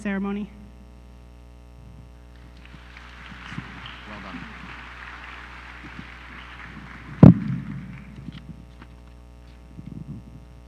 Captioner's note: applause